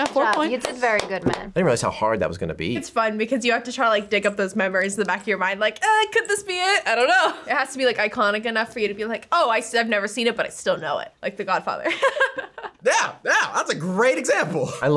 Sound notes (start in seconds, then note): 12.1 laughs